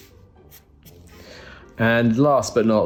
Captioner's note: pen drawing